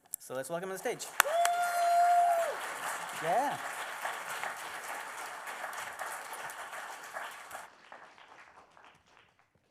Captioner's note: applause